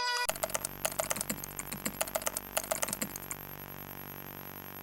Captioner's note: keyboard keys clicking